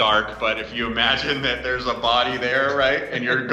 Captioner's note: laughing